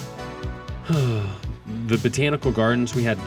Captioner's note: sighs